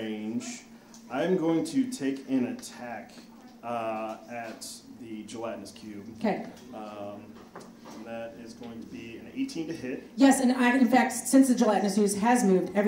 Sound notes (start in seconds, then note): none